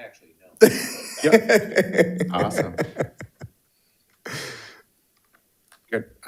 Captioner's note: participants laughing